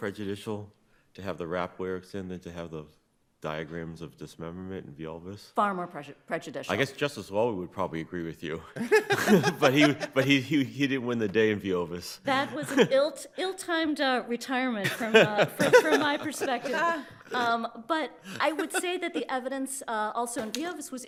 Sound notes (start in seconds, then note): 8.7 laughing; 14.8 judges laughing